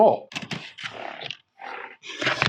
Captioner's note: keyboard clicking